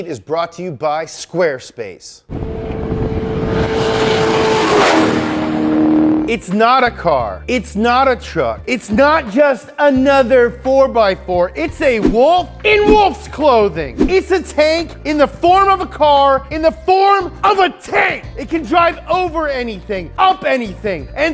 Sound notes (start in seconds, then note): 2.3 engine revving